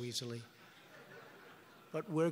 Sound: laughter

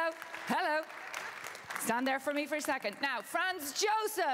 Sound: applause

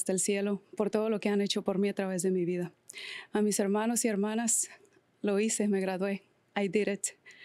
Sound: speaking Spanish

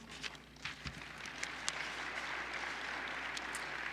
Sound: applause

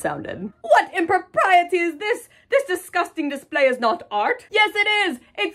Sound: snob voice

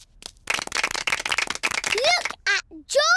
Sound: applause

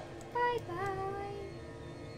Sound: high voice

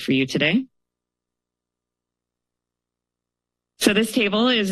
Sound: pause

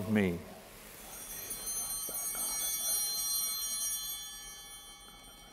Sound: bell ringing

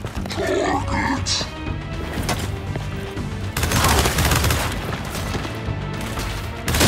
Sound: gunfire

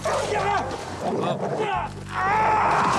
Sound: yelps; grunts; screams

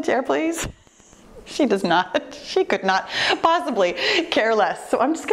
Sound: laughs

